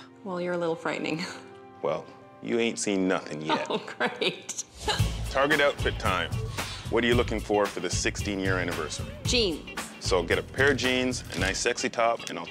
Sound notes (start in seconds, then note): 4.8 laughing